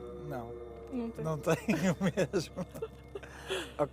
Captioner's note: laughs